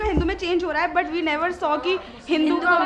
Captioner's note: speaks in foreign language